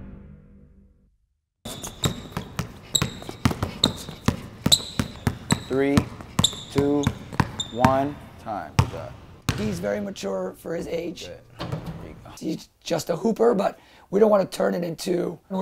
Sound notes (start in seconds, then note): 1.6 dribbling sounds